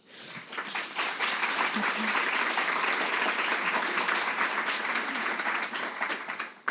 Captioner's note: clapping